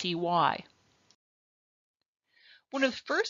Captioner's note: silence